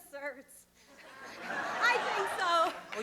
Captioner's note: laughter